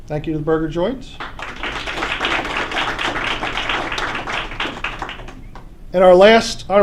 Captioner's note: applause